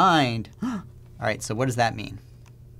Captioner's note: gasps